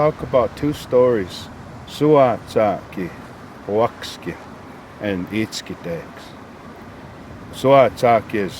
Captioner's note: speaking in Blackfoot